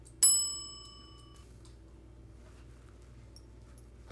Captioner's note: timer bell rings